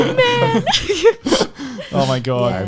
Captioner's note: laughs